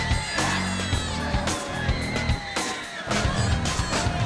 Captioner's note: hard rock music; Daffney screaming